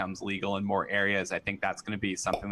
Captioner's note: popup pops